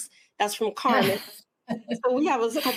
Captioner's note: laughs